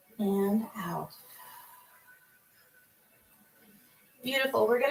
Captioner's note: exhales